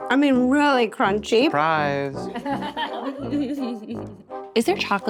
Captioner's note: all laughing